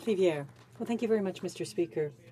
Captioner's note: speaking French